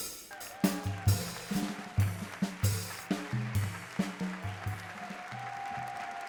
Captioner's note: audience applauds and cheers